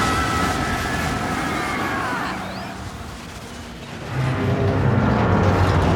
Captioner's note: roaring